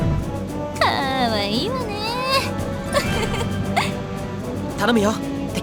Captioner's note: giggle